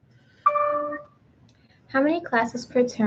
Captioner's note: computer dings